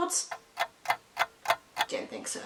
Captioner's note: dramatic ticking